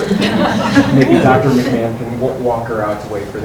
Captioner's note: laughing